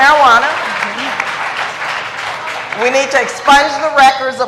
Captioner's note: applause